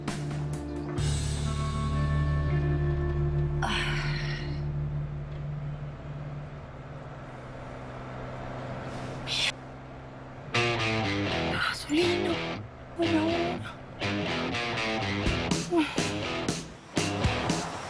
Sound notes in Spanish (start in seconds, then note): 5.5 Ruido del vehículo